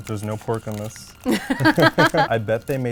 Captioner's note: both laugh